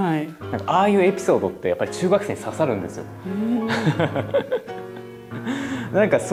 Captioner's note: laughs